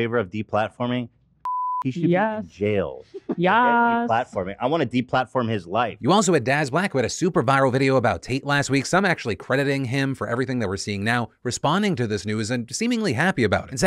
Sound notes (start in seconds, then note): 1.4 beeps